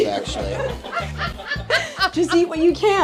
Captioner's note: laugh